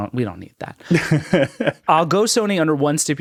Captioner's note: laughing